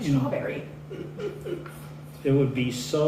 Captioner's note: laughter